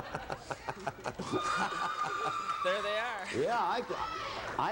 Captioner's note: girls cheering